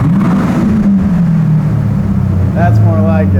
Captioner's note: engine revving